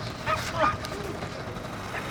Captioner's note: dog barking